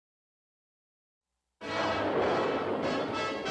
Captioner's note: thunderclap